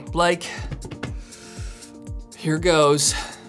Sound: inhales

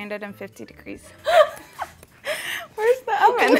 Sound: laughing

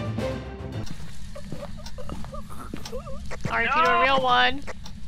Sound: choking sounds

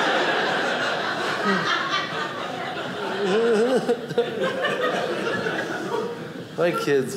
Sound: audience laughing

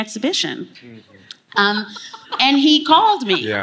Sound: laughing

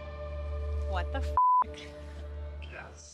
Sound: beep

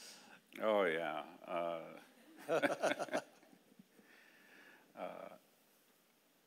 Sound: laughing

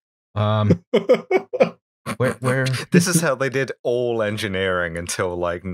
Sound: laughter

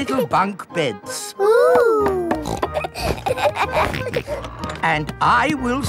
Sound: snorts, laughs

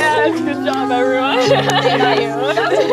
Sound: laughing

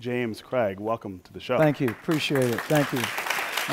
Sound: applause

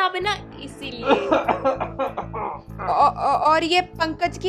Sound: coughing

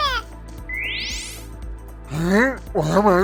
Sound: teleport sound

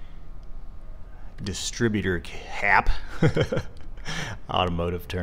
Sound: chuckles

